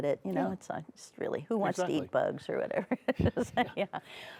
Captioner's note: laughs